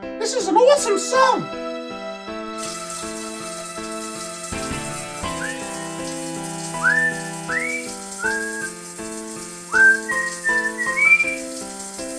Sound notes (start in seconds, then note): 2.9 shower water running; 6.6 whistles to tune